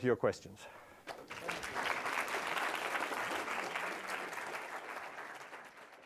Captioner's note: audience applauding